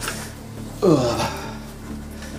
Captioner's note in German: Ächzen